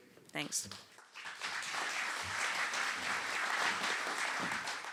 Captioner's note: applause